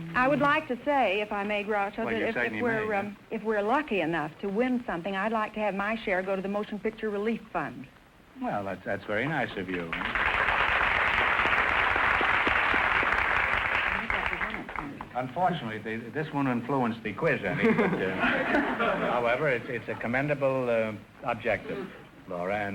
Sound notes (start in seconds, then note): 9.7 applause; 13.4 whispering; 17.6 audience laughter